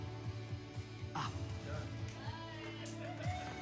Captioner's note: cheers